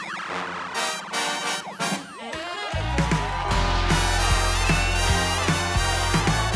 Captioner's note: upbeat music; audience clapping